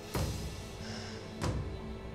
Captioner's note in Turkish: Nefes sesi